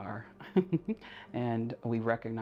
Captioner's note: chuckles